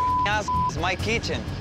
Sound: beep

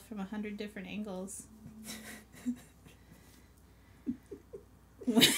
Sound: laughs

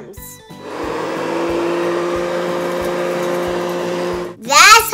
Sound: vacuum whirring

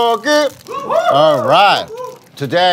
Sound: sound of cheering

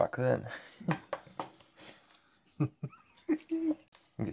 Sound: laughs

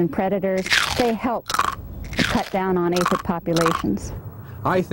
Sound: crunching noise

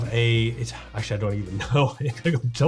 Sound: laughs

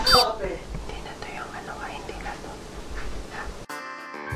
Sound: whispers

